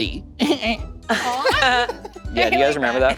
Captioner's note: group laughing